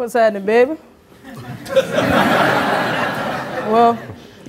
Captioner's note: audience laughing